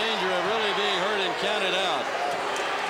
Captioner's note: crowd chatter